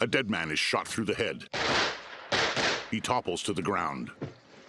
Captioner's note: gunshots